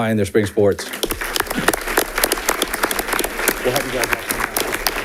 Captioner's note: audience applauding